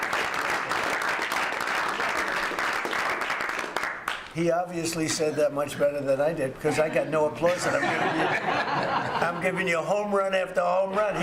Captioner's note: applause